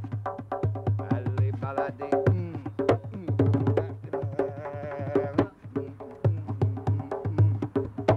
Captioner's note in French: percussions; Il chantonne